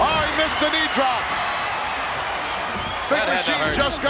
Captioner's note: audience cheers